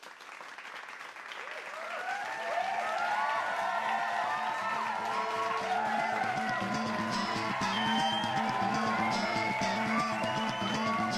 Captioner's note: applause and cheering